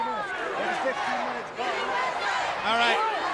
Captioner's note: crowd cheering